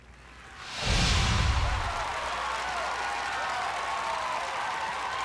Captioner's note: cheering, whooping